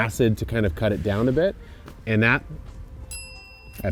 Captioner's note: bell chimes